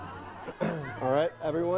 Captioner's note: clears throat